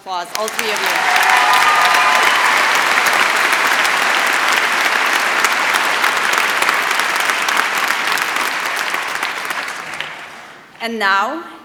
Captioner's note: applause